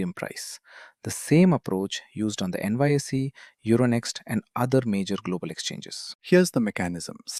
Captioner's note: thoughtful